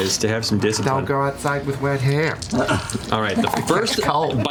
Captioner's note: New Jersey accent